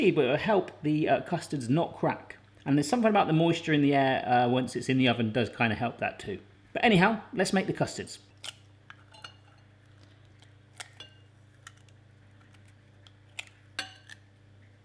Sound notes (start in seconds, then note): 8.3 eggs cracking